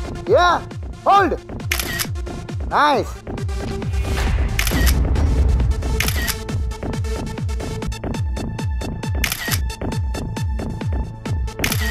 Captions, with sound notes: Yeah. Hold! Nice. [photo clicking]